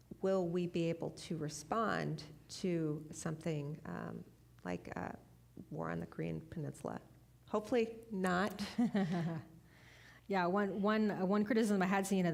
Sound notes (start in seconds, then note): 8.6 chuckling